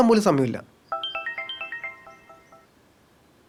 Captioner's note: mobile rings